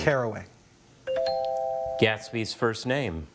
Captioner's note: bell chimes